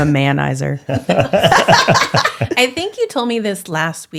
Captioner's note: both laughing